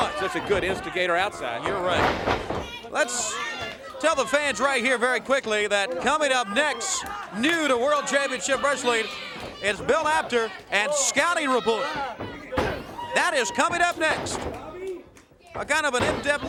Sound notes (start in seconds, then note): 2.0 crowd chatter